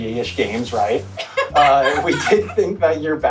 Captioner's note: cackles